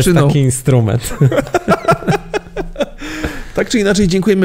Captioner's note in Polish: śmiech